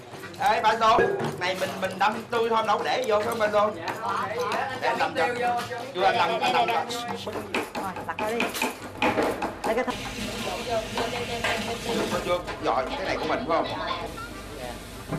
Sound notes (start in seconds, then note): 1.3 chatter